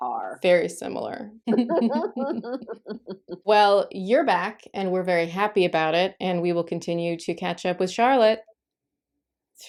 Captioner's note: laughter